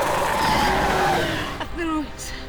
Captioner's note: creature roaring